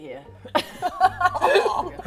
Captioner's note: laughs in BS